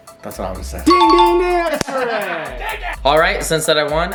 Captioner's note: beep